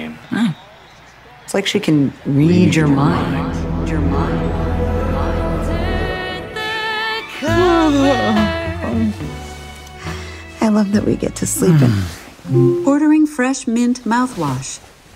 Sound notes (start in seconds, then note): 4.2 voices echoing; 9.2 yawns